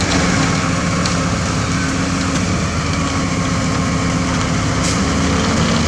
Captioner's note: truck Engine